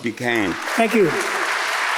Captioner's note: audience applauds